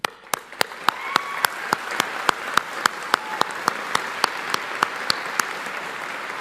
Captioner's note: audience cheering and applauding